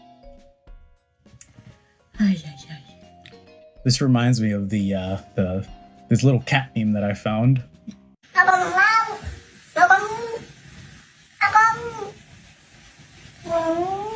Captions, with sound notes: This reminds me of the little cat theme that I found. [baby talk]